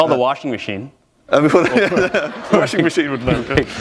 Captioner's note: laughter